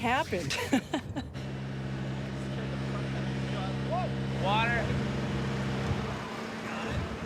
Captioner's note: people talking; machinery clanking